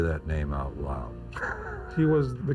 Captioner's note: laughs